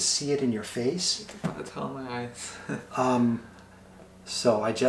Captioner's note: chuckles